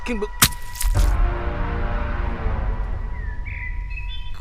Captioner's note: machete slashing